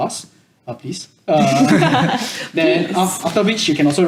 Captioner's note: laughs